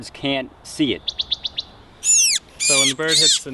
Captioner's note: bird chirping